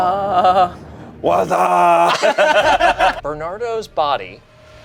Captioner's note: group laughs